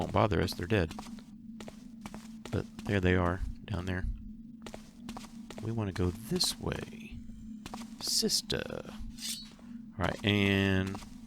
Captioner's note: sounding like Darth Vader